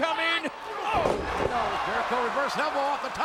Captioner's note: wrestlers thudding